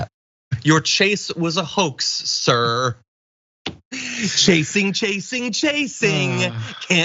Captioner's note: laugh